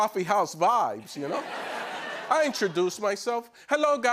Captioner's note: laughter